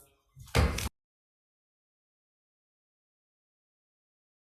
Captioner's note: gavel thudding